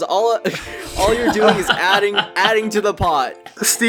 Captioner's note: laughing